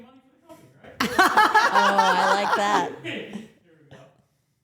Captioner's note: everyone laughs